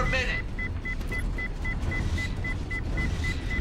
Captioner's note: alarm